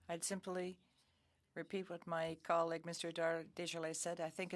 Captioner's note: speaking French